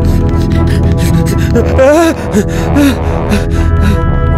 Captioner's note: scared